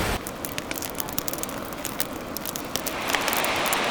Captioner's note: fire cracking